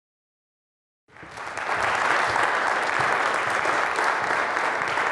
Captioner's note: audience clapping